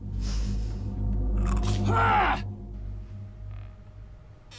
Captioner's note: man growling